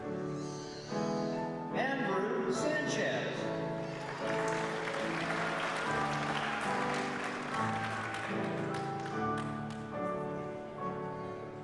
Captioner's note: applause